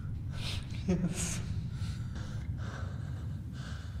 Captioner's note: sniffling